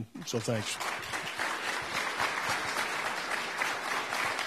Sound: applauding

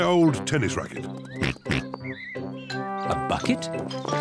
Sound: oinks

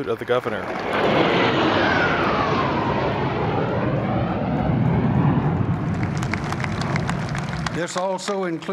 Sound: jet sounds

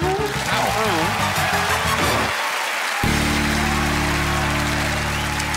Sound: cheering and applause

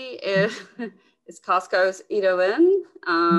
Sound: woman laughs

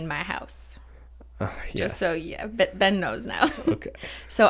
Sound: sighs

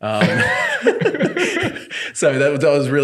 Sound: laughing

